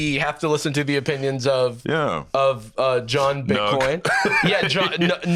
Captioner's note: laughs